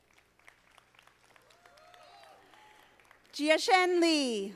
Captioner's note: audience applauding